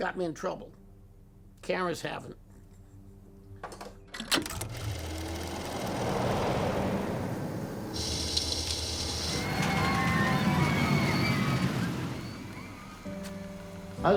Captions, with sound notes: Cars and guns have got me in trouble. Cameras haven't. [clicks] [reel whirs] [traffic passes] [kids scream]